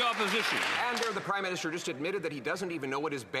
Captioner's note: cheers & Applause